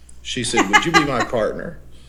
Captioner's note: laughs